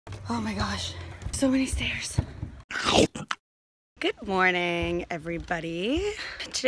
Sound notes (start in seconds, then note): 2.7 cartoon-like character taking a bite out of something